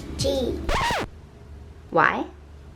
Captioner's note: record scratch